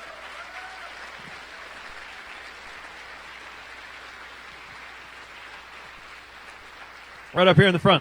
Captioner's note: applause